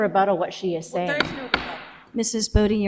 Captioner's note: gavel taps